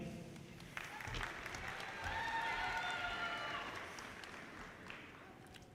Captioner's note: audience cheers and applause